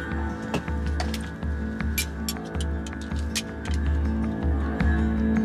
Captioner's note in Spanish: Ruido al ponerse el cinturón